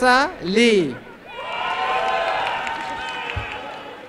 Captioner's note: applause and cheering